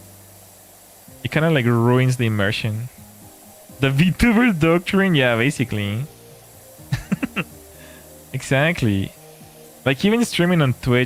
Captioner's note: laughter